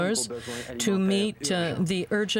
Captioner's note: speaking French